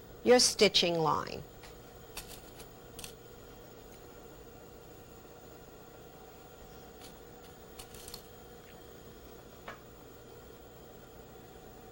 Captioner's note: rattle of fabric pins